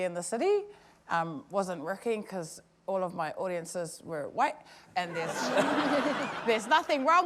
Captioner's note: laughter